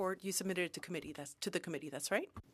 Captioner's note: speaking French